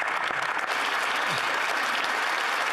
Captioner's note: speaking Italian